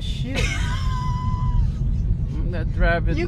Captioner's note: laughs